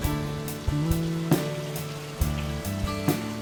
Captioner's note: indoor fountain running